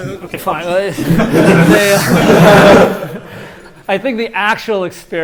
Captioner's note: laughter